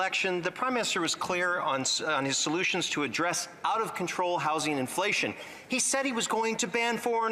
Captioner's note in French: voix de l'interprète